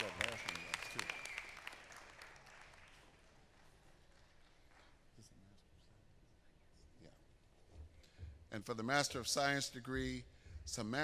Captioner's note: applause